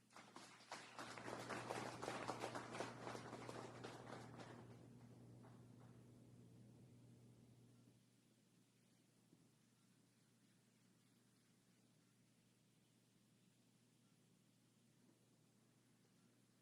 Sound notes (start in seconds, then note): 5.0 applause